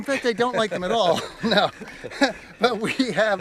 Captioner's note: laughs